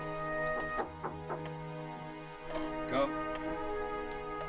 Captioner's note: knocking